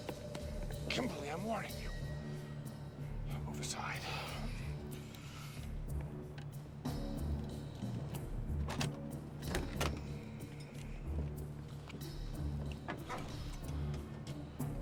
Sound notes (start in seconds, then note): 8.7 click